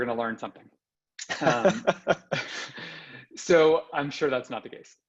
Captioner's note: laughing